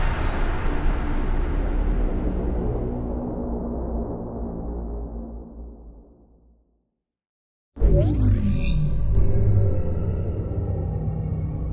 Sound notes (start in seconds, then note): 7.8 dramatic intro sound